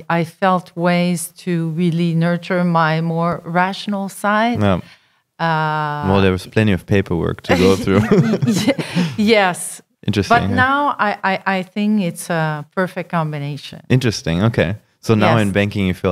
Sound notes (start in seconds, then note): 7.4 laughing